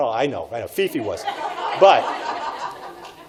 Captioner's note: audience laughs